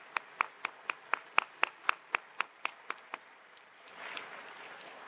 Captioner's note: attendees applauding